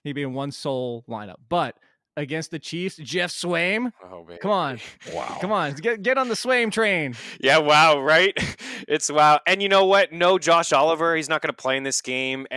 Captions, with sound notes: He'd be in one sole lineup. But, against the Chiefs, Geoff Swaim. - Oh, baby. (laughs) - Come on. Get on the Swaim train! - Yeah, wow, right? (laughs) It's, wow, and you know what? No Josh Oliver. He's not gonna play in this game.